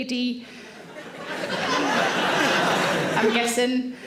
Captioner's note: audience laughs